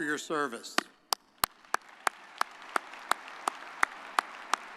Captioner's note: audience applauding